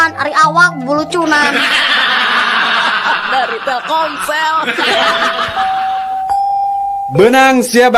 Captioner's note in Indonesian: tertawa